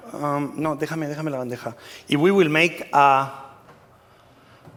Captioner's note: spanish